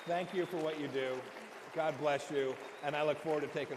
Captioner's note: applause